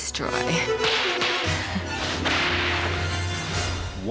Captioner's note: whip cracking